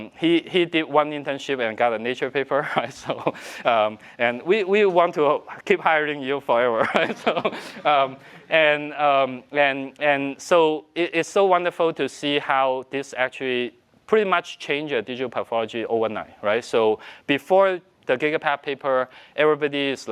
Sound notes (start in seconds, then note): 6.8 laughs